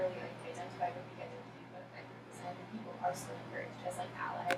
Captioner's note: speaking softly